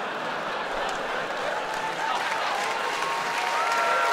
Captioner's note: claps